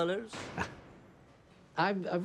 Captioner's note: laughs